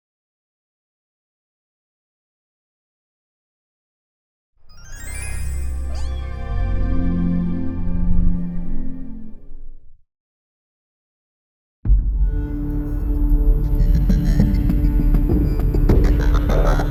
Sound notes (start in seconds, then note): 5.7 cat meowing; 13.8 dark dramatic music playing